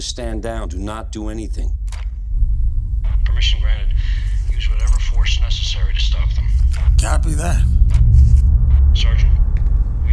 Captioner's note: radio